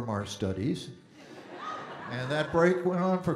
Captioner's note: audience Laughing